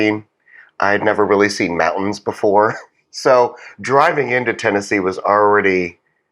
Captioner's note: laugh